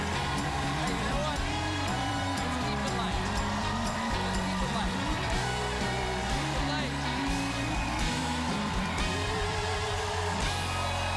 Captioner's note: cheers and applause